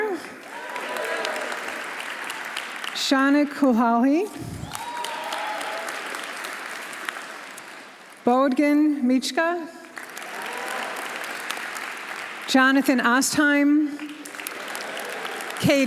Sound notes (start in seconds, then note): 0.0 audience applauding; 0.4 audience cheering; 4.3 audience applauding; 4.6 audience cheering; 9.8 audience applauding; 10.2 audience cheering; 13.9 audience applauding; 14.4 audience cheering